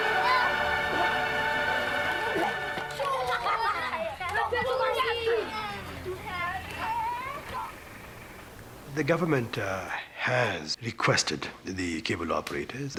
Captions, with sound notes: (song ends, children laughing) >> The government has requested that the cable operators,